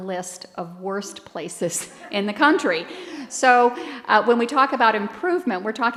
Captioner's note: laughter